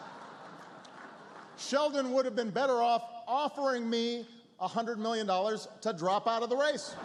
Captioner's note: laughter